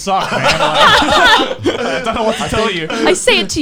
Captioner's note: laughs